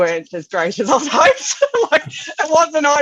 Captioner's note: laughs